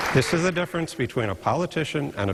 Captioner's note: applause